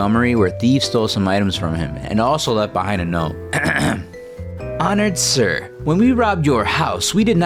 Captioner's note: ahem